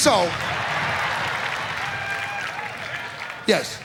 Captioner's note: audience applauds